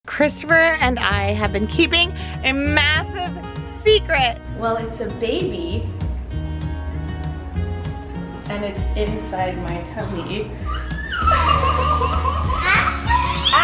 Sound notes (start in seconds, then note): 10.5 gasps and laughs